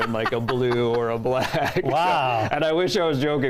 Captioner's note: laughs